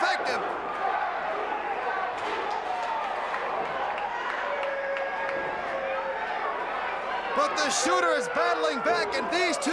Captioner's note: crowd cheering